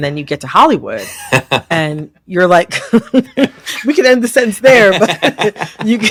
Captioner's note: laughter